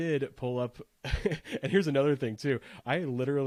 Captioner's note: laughs